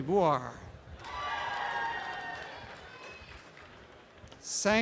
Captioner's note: applause and cheering